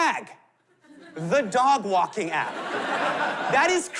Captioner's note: laughter